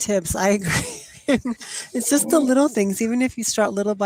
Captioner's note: chuckles